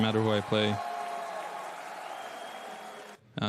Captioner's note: crowd cheering